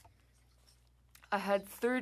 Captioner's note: speaking french